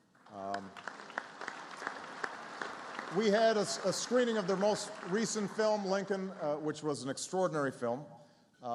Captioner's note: applause